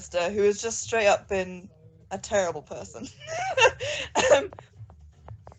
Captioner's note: laughs